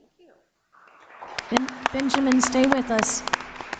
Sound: audience applauding

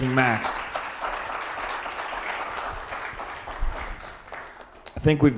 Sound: audience applauds

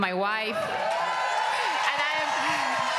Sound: cheering

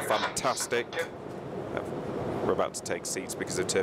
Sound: cabin announcement

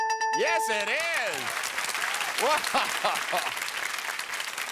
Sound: bell rings; laughing

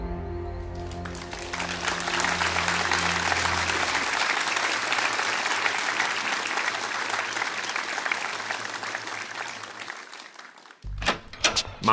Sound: applause

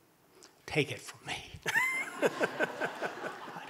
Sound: murmurs

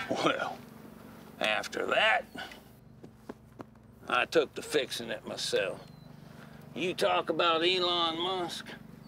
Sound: none

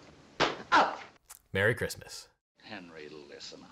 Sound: umbrella smacking forehead

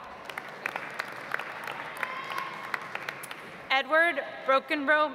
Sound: audience applauds

